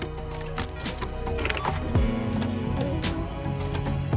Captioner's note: keyboard clacking